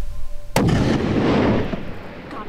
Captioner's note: gun shot